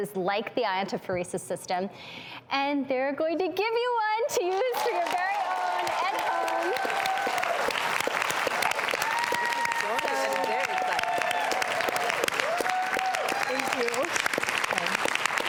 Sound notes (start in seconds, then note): 6.5 applauding/cheering